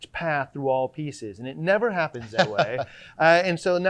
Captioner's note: laughing